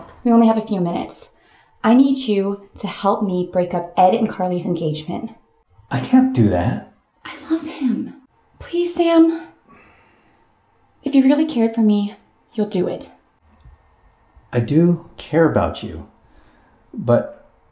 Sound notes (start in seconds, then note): none